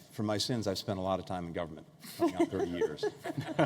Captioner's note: laughter